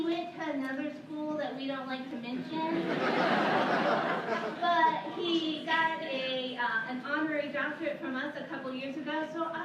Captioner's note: laughter